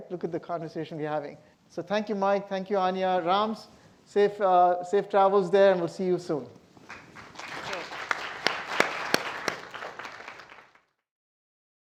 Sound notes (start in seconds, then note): 6.8 audience applauding